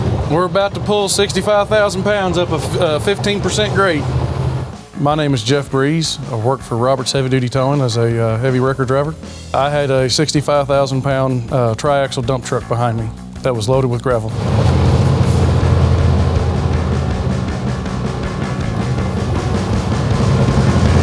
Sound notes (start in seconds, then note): 14.2 wheels whirring; 18.5 drum beats